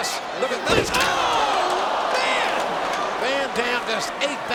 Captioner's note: crowd groaning